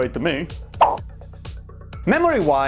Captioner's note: whoosh